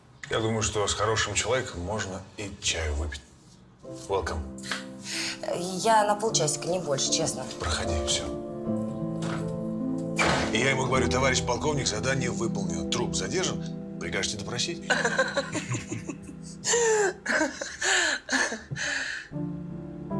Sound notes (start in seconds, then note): 14.9 laughs